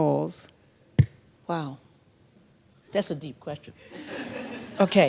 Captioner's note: laughter